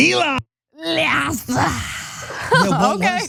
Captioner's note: laugh